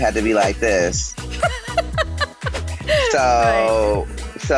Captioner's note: laughing